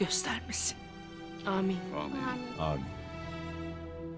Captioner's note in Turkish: Hep bir ağızdan